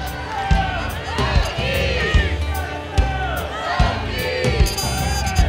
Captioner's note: crowd shouting and cheering